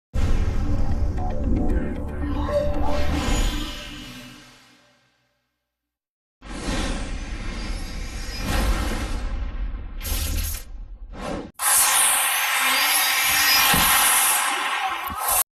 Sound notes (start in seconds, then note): 0.8 digital synth music plays; 6.3 digital epic sounds; 11.5 digital dramatic sounds